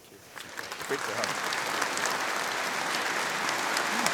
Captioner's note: audience applauding